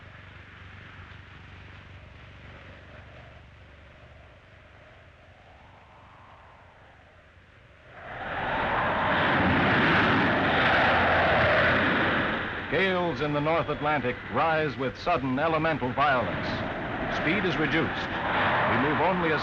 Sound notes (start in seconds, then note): 0.0 engines running; 8.2 waves crashing; 8.2 wind howling